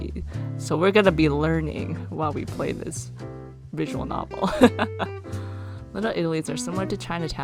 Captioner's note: laughs